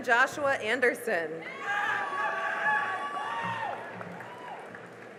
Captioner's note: cheering and applause